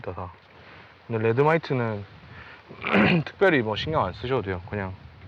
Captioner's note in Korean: 목을 가다듬음